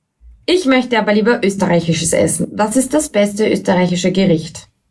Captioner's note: speaker 3 speaking German